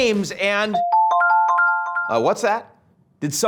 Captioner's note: phone ringing